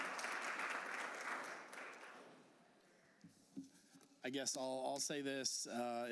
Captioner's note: applause